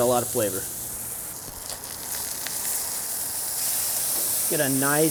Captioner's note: burgers sizzle